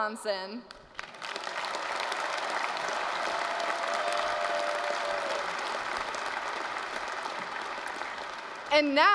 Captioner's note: applause